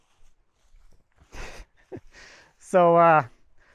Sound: laughing

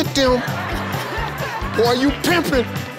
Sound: crowd laughing

